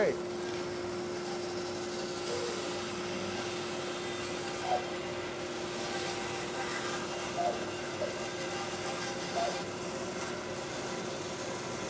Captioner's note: sawing